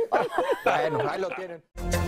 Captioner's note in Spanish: risas